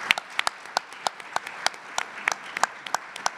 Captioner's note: applause